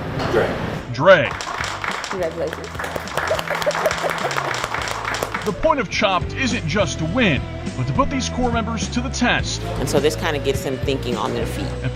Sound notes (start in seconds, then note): 3.1 applause